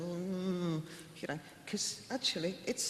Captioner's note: mumbles